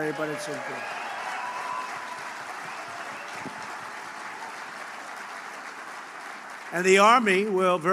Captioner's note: applause